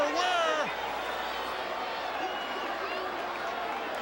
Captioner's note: crowd yelling